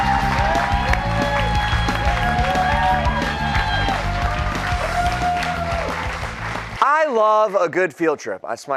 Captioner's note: cheers and applause